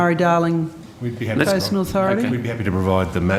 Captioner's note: mummers